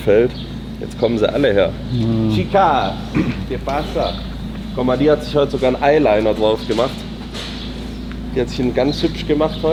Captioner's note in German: räuspern